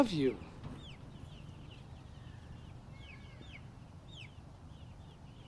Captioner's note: birds chirping